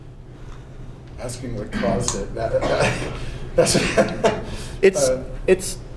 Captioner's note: laughter